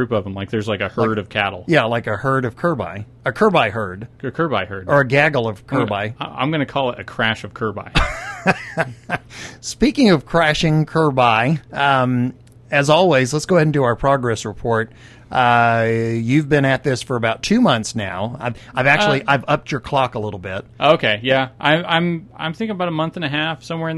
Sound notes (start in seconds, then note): 8.0 laughs